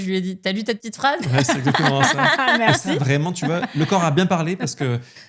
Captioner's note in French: rires